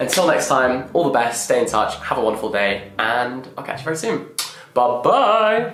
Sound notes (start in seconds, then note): 4.3 blowing kiss